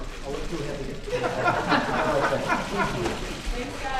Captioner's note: laughter